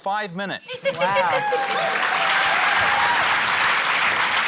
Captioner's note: cheering, applause